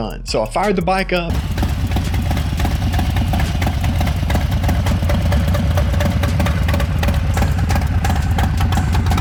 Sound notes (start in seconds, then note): 1.2 engine hums